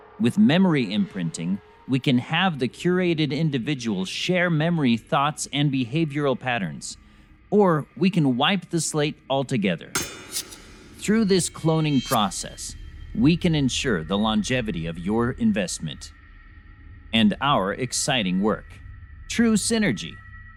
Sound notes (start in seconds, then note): 9.9 metals clanking